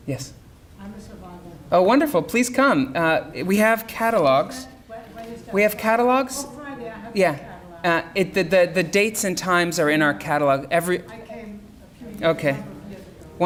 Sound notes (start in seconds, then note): 4.5 audience speaking